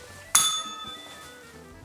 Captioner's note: bell rings